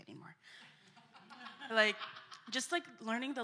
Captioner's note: laughter